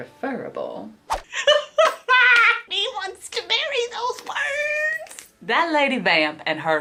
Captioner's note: laughs